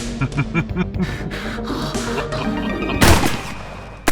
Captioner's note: female orgasm sounds; gunshot; gunfire and bullets richochet